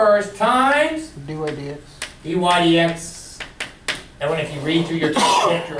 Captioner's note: voiceover